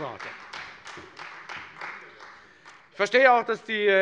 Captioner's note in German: Beifall Freie Demokraten